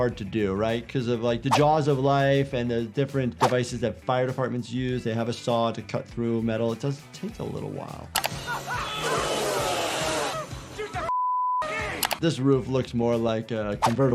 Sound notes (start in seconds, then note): 8.3 people screaming; 11.1 beep